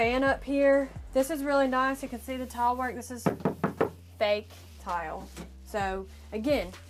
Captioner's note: knock, knock